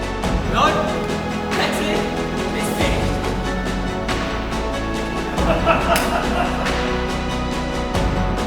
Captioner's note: laughter